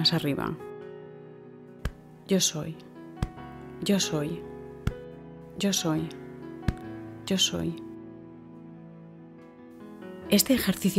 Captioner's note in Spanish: golpecito